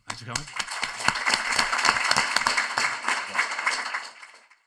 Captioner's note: applause